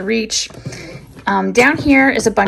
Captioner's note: drawer sliding